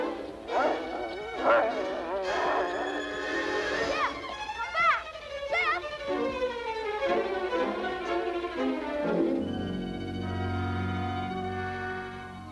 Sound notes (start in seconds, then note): 1.3 Shep barking; 2.4 intense music